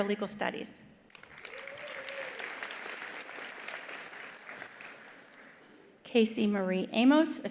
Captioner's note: attendees applauding; attendees cheering